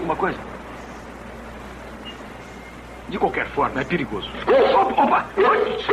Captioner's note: dog Barks